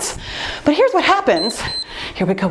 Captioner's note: timer beeps